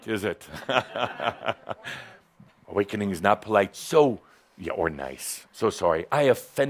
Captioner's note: Adamus chuckles